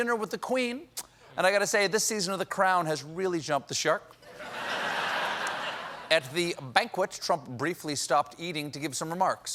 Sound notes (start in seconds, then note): 4.2 laughter